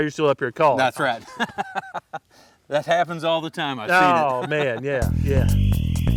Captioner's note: laughter